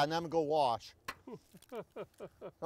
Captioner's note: laughing